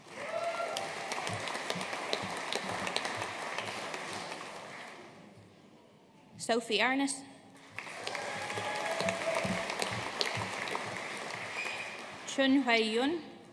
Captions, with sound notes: (AUDIENCE CHEERING AND APPLAUDING) Sophie Arnott. (AUDIENCE CHEERING AND APPLAUDING) Chang Hui Yun.